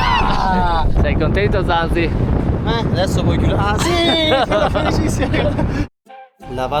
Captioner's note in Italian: risate